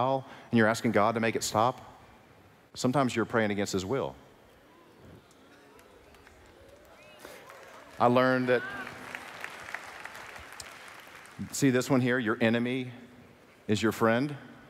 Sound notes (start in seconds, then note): 5.7 applause